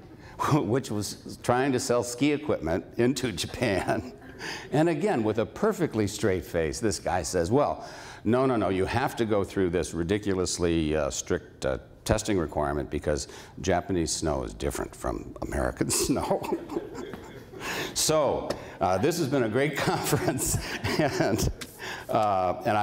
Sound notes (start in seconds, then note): 15.9 laughs